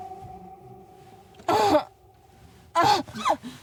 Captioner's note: Jane groans uncomfortably